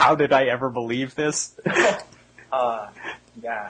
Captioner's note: laughing